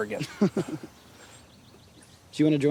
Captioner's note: both chuckle